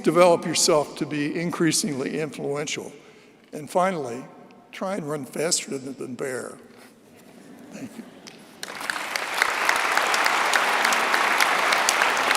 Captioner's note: applause